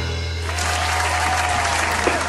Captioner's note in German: Musik verklingt; Jubel, Applaus